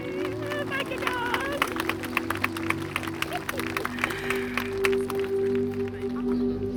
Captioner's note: hands clapping